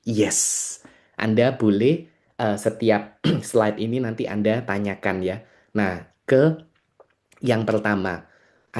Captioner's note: berdehem